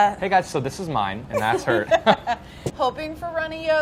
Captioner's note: laughing